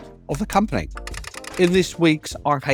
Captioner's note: typewriter clacking